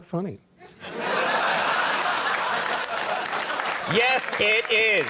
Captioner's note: audience laughing